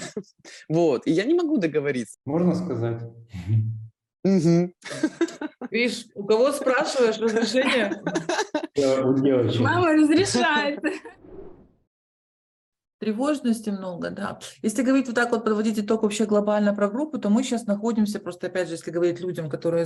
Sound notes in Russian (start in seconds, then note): 0.0 смеется; 7.3 Все смеются